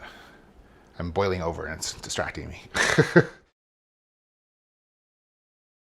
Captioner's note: chuckles